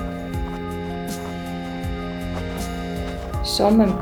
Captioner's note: gravel crunching